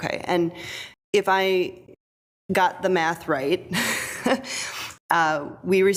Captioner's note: chuckles